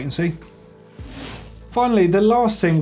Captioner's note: bike chain whirring